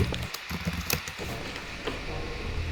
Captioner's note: typing